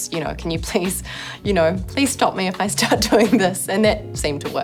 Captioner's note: chuckles